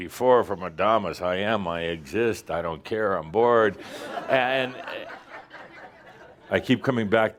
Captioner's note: laughter